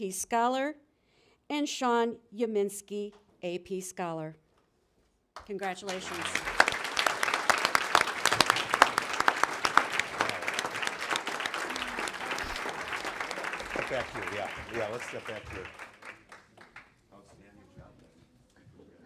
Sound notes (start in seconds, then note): 5.4 applause